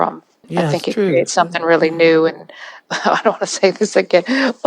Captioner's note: laughs